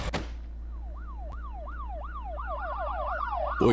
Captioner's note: police sirens